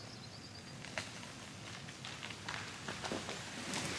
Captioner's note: tree falling